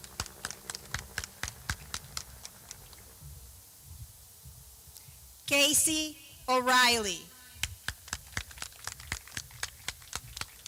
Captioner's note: clapping